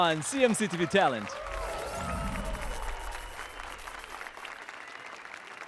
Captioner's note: applause and cheers